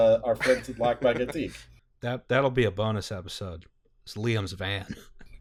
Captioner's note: laughter; laughter